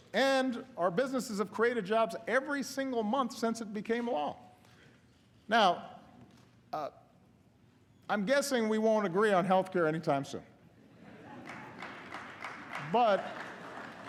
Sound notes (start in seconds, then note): 11.3 applause